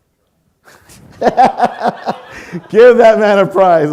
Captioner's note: laughing